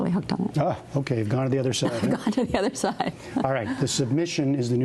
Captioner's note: laughter